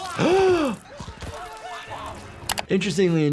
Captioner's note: doctor gasps